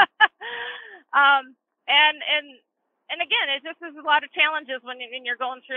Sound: chuckles

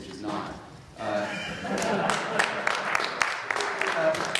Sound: laughter and applause

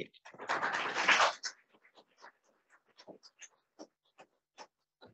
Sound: audience applauds

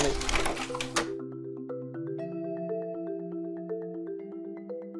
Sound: slide projector clicks

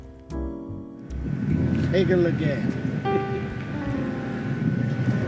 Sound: wind blowing

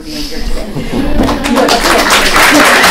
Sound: applause

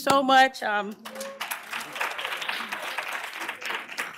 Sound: applause

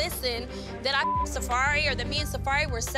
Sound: beep

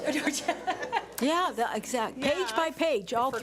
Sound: laughs

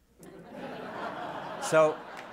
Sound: audience laughs

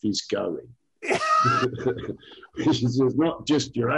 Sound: laughs

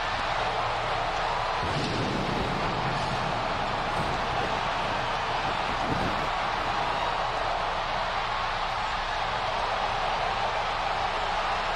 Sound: cheers and applause

